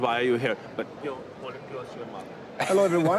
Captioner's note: speaks faintly